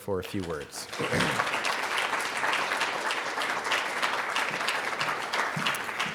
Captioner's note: audience applauding